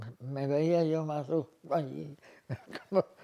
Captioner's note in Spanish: Ríe